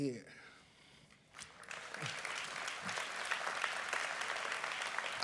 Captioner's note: applause